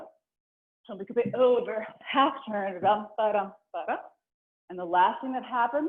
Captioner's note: vocalizing a rhythm; vocalizing a rhythm